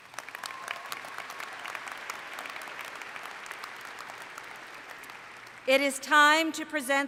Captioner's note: applause